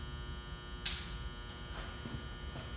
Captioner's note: switch clicks